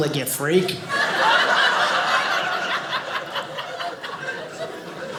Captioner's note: audience laughing